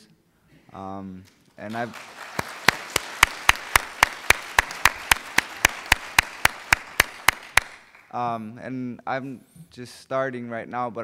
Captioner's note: applauding